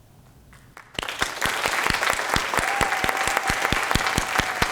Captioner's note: applause